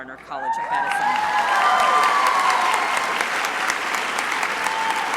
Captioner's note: crowd applauding